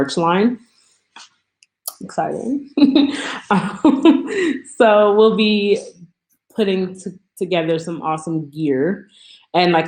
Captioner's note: laughs